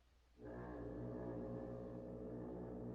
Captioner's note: foghorn Blows